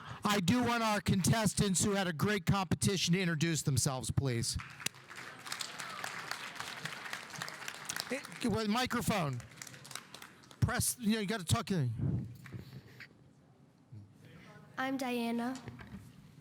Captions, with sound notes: I do want our contestants who had a great competition to introduce themselves please. (audience applauding) Microphone. Press, you gotta talk in... - I'm Diana.